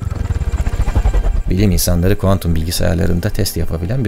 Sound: with normal voice

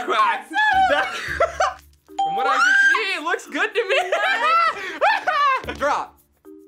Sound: laughs; yells

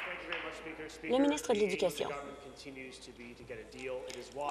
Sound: applause

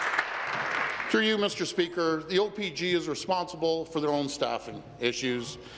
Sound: applause

